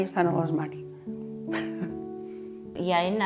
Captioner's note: laughs